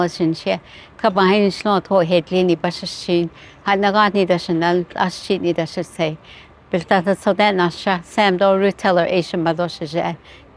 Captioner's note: Speaking Navajo language